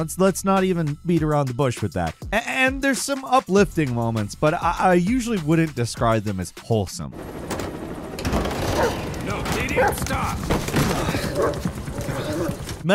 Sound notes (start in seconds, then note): 7.1 helicopter blades whirring; 8.6 barks; 10.7 growls; 11.0 Venom grunts; 11.0 helicopter blades whirring